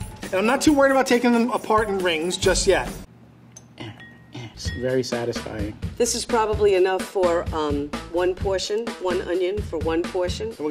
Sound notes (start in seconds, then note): 3.9 grunting